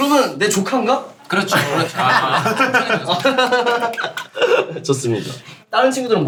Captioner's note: laughs